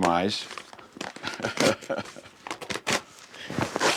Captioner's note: laughs